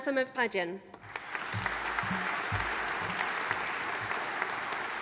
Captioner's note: audience applauding